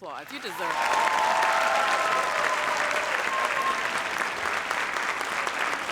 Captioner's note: audience cheers and applauds